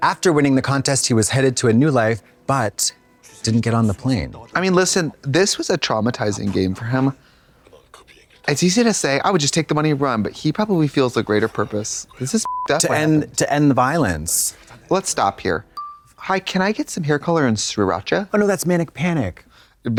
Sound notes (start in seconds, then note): 12.4 beep